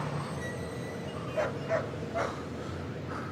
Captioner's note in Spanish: ladridos